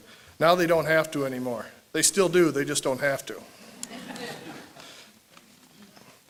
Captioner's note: laughter